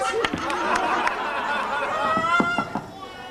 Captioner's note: γέλιο